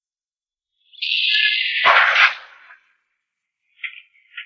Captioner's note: gunshot